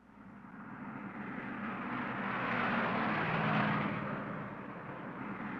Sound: traffic rumbling past

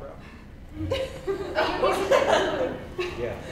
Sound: laughter

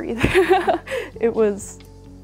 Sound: laughs

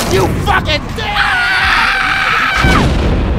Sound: Mikasa roars violently

